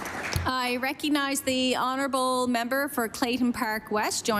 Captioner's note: applause